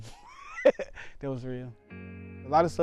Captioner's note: laughs